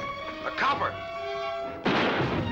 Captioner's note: gun shots